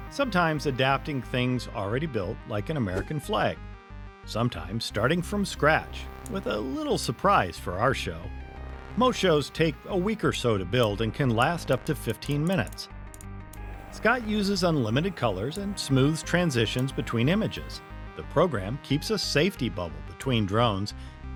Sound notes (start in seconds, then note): 12.0 mouse clicking